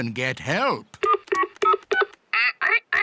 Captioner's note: dial tones beep; imitates dial tones